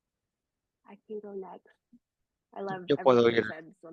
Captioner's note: hablando inglés